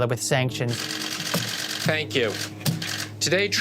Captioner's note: camera shutters clicking